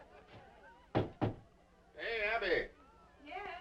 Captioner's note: door knocking